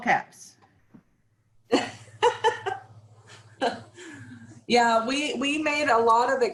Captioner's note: laughs